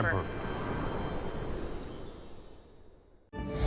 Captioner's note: logo whooshes; uplifting music